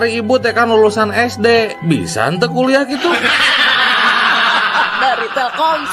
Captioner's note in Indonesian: tertawa